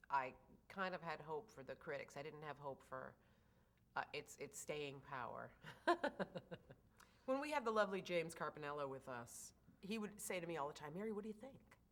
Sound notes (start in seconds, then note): 5.8 laughs